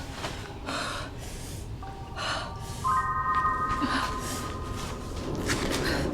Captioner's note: Stella continues panting heavily